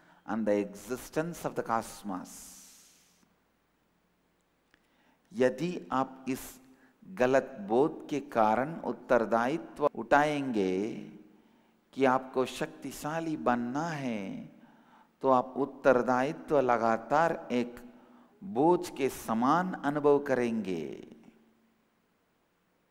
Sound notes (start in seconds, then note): 16.1 hindi